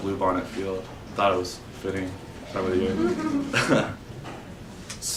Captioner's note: chuckles